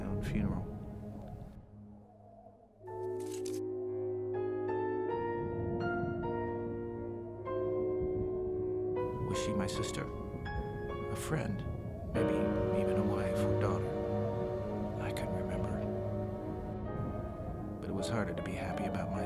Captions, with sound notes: at my own funeral. (wind whistles) Was she my sister? A friend? Maybe even a wife or daughter? I can't remember. But it was harder to be happy